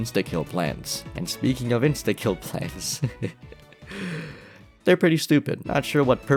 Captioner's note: laughs